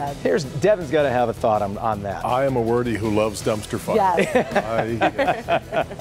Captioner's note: laughter